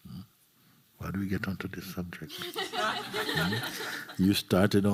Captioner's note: laughter